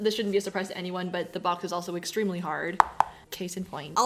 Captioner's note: thwak thwak thwak